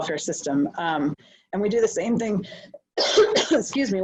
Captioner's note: coughs